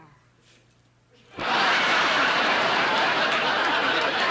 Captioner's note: audience laughing